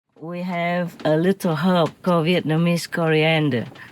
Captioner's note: Vietnamese